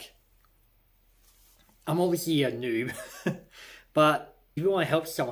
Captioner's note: nervous laugh